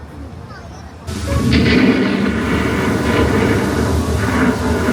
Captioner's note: ride rumbling